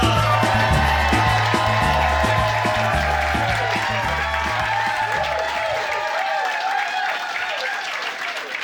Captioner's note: cheers and applause